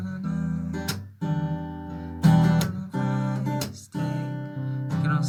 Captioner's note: humming